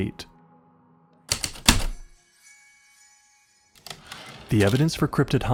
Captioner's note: heavy typewriter keystrokes, light chimes, return slide